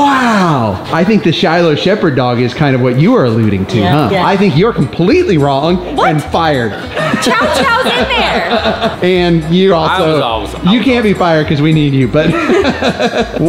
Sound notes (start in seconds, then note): 6.6 laughs; 12.2 laughs